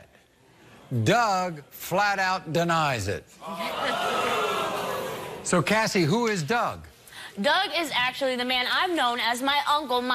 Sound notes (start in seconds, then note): 3.4 audience react